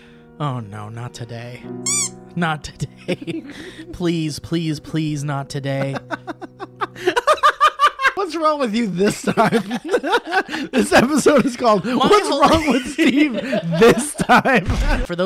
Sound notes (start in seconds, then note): 1.8 squeak